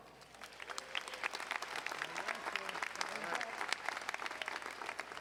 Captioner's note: audience applauding